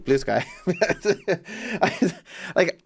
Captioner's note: laugh